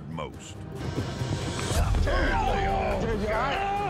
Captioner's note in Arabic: صوت دوي، أنين